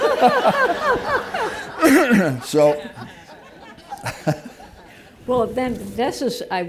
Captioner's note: laughter; laughs